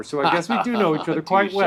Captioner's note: laughs